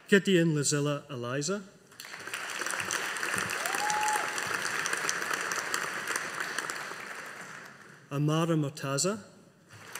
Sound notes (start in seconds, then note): 2.0 audience applauding